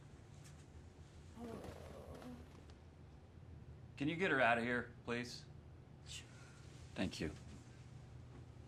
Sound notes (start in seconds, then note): 1.4 Sandy groans